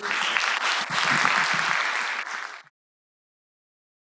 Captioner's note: applause